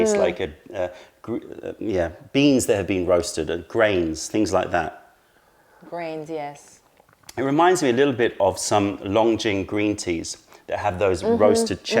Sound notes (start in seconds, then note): 5.5 sips tea